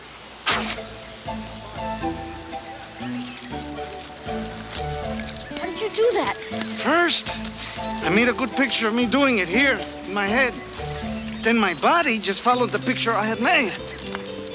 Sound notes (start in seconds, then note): 0.4 Crecencio blows; 3.4 chain rattles